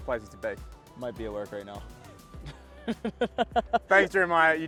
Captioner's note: laughs